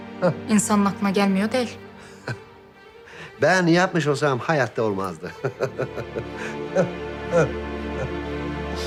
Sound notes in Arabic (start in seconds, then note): 0.2 يضحك بيير; 7.2 يضحك